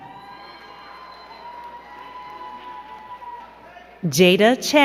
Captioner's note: crowd cheering and clapping